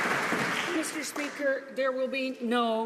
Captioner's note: some Applause